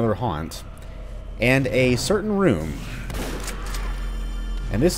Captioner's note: boom